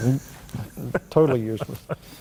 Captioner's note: laughter